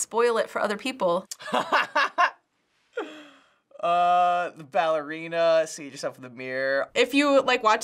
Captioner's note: laughs